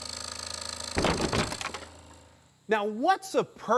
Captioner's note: falling wood clunks